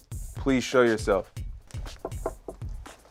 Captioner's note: tapping